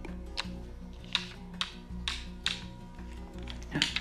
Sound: objects hitting

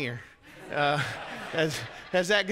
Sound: congregants laugh

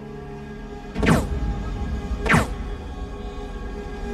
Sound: gun firing

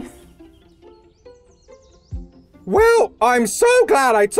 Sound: birds chirping

